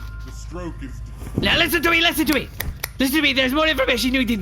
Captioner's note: the covers drop, bedsprings continue squeaking; snapping